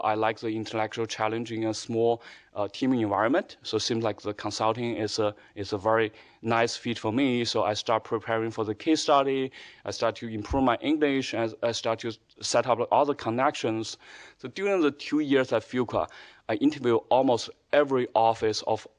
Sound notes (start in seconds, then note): none